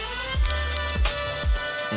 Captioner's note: Crunch